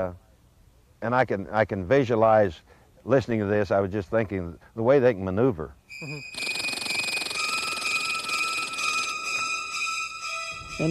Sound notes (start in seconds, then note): 6.2 squirrel chittering; 8.2 intense dramatic music